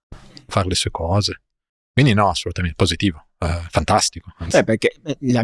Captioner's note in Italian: schiarire la voce